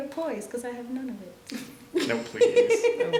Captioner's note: laughter